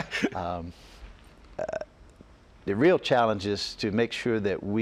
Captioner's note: laughter